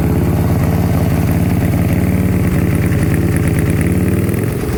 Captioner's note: ear-splitting engine roar